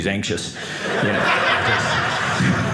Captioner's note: audience laughing